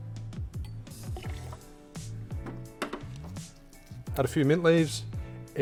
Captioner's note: liquid sloshing